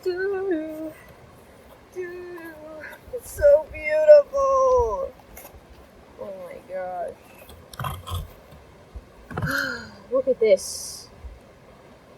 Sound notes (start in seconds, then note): 2.2 sigh